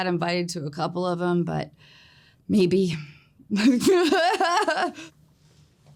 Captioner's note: laughs